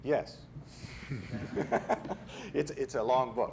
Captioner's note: chuckling